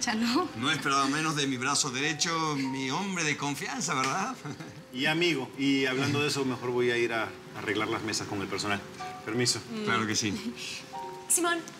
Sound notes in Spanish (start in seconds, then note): 6.9 Ríe